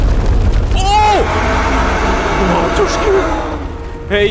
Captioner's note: monster roars